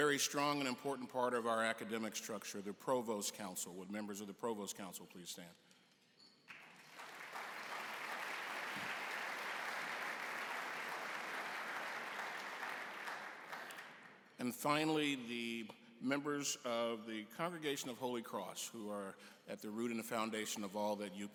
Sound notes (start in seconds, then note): 6.5 applause